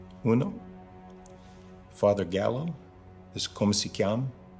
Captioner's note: speaking in Italian